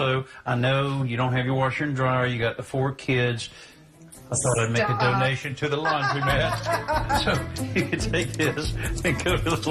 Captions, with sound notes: Yeah, you're doing this too much. So, also, I know you don't have your washer and dryer, you got the four kids. Stop. I thought I'd make a donation to the laundromat. [laughter]